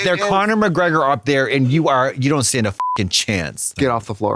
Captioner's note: beep